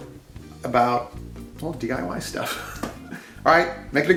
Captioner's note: laughs